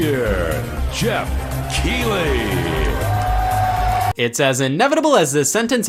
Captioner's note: crowd cheering